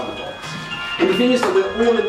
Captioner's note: cell phone ring tone